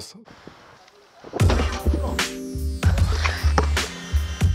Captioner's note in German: Originalton: Ball trifft Korb. Musik setzt ein